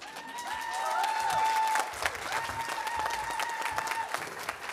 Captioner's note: audience applauding